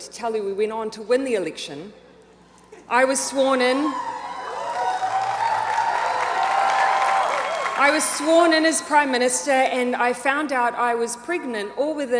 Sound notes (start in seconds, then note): 3.8 audience applauds and cheers